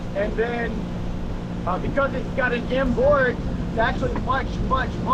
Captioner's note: engine